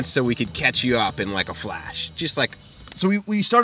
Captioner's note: snap